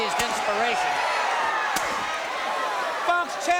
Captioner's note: crowd cheering